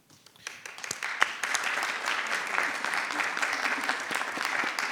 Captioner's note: audience applauding